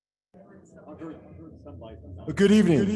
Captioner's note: chatter